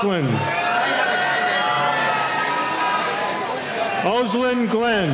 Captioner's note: cheering